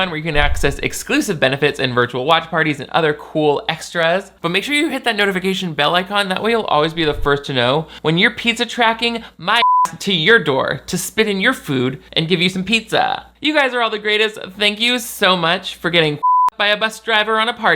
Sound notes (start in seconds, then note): 9.6 beep; 16.2 beep